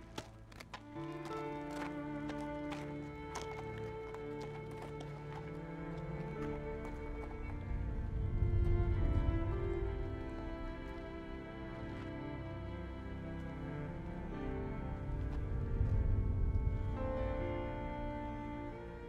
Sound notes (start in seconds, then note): 1.1 hooves clomping; 7.1 dramatic music continues